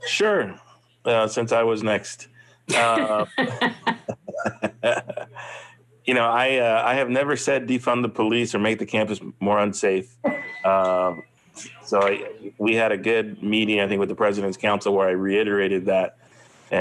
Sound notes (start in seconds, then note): 2.7 laughs